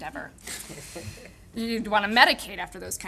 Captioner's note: audience chuckling